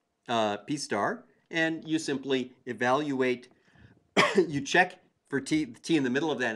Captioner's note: cough